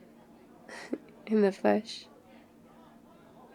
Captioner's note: laughs